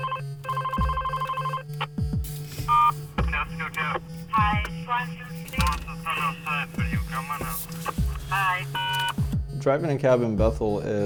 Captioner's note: telephone ringing